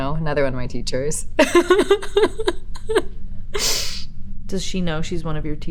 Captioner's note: Elizabeth laughs